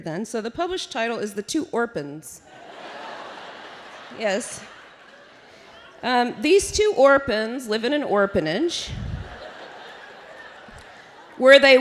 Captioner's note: laughter